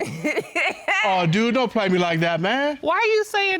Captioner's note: laughing